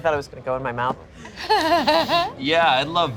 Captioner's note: laughs